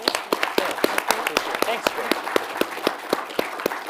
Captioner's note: audience applauds